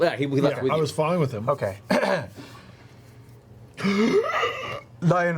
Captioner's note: gasps